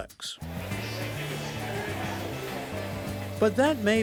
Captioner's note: lively upbeat music; attendees chattering